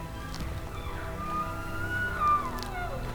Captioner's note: elk bugling